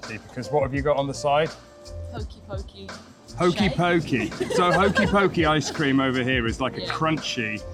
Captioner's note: laughter